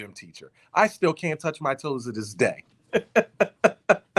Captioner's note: laughing